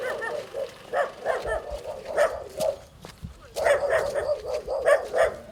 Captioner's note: dogs barking